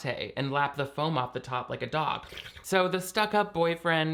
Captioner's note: slurping